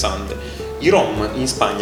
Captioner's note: inhales in italian once again